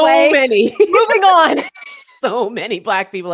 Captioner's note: laughing; laughs